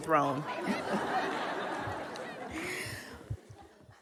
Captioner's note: kids yelling, audience laughs